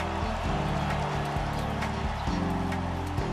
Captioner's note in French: criant des sportifs